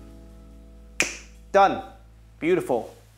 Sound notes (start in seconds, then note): 1.0 snaps fingers